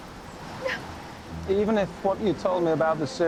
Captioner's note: sobs